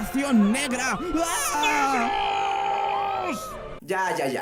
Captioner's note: Viceroy screaming dramatically; another New Spain guy screaming dramatically